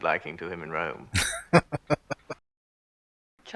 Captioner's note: laughing